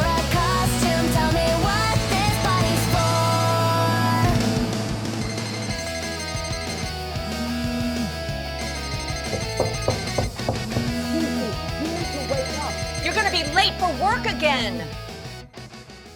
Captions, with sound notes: [phone ringing] [knocking on door] Gigi! You need to wake up! You're going to be late for work again!